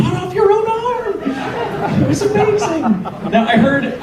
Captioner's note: audience laughs